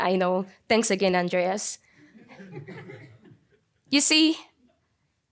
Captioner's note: audience laughing